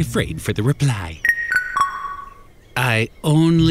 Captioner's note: text alert